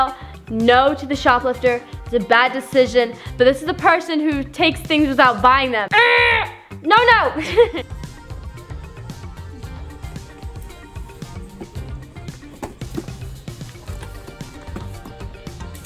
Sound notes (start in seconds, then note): 7.3 laughs